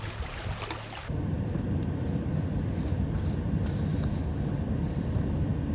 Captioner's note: water splashing